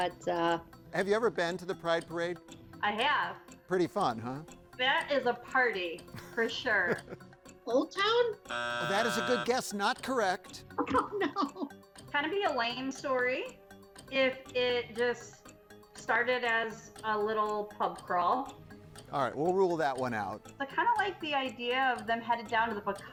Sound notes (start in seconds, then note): 6.1 laughs; 8.4 buzzer sounds; 10.8 laughs